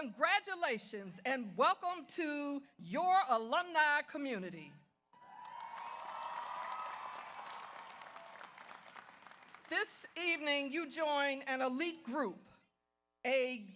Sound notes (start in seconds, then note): 5.2 audience cheers; 5.2 audience applauds